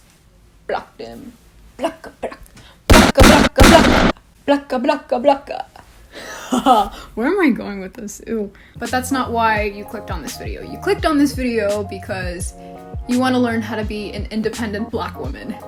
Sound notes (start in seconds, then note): 2.9 bang; 6.2 laughs